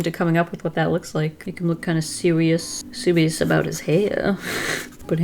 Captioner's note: chortle